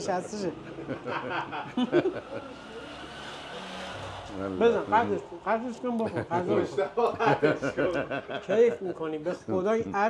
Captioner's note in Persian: خنده